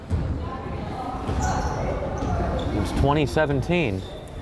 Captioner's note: crowd chattering